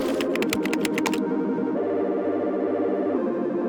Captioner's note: upbeat electronic music; keyboard clacking